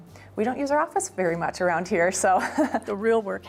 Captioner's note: laughs